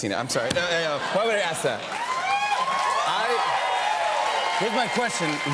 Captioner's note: cheers and applause